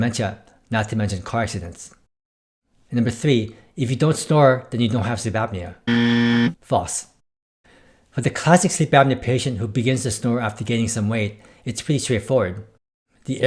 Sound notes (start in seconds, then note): 5.8 buzzer